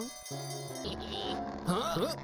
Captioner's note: raccoons giggling